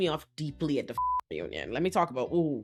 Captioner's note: beep